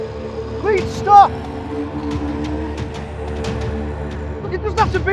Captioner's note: chilling music continuing; clones snarling